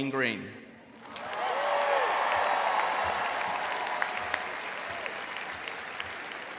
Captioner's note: audience applauding and cheering